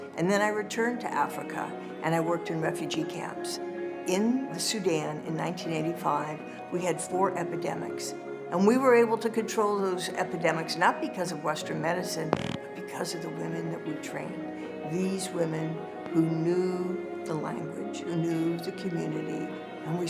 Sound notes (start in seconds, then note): none